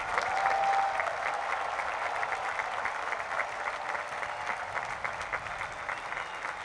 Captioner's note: cheering and applause